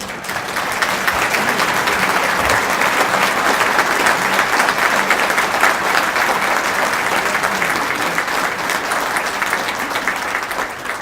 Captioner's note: applause